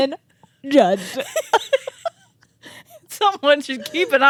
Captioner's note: both laughing